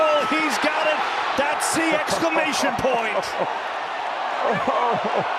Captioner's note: TB laughing